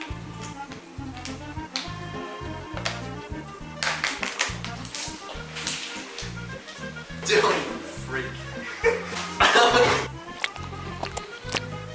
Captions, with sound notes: (Water splash) What are you doing? Freak (Laughter) (Wet, moist, hair gel sounds)